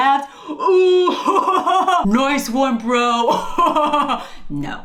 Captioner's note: fake laughs